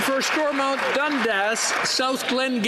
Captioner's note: some Applause